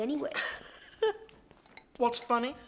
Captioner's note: laughing